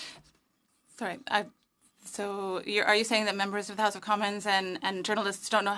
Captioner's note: speaking French